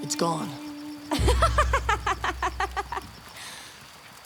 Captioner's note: laughing